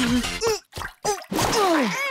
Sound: grumbling

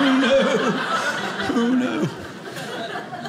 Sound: audience laughing

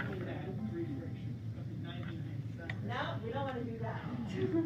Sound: background chatter

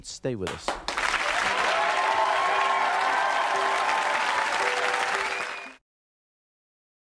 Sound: audience cheering and applauding

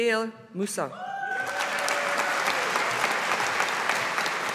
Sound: audience applauding

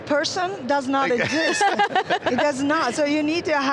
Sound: laughs

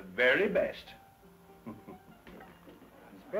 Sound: laughs

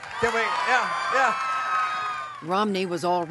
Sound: cheering and applause

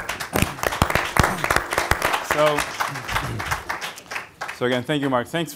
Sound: applause

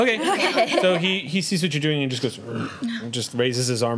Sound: growls

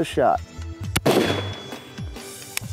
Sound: gun fires

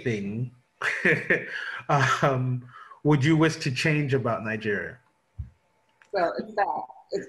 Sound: laughing nervously

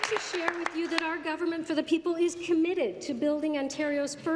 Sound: applause

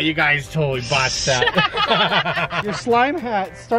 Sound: laughing

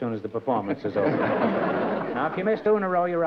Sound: laughter

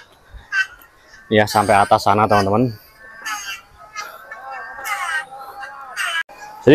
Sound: laughs

